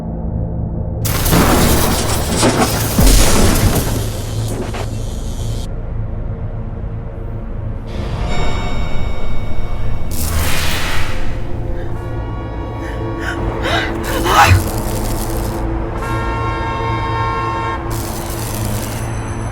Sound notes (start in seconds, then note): 1.7 electricity buzzing; 12.8 Claire exclaiming; 13.1 horn honking; 14.0 electricity buzzing; 16.6 horns honking